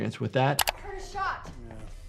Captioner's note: video graphic clicks